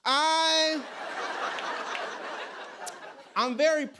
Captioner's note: laughter